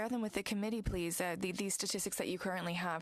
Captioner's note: speaking french